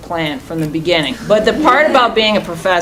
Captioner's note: chuckling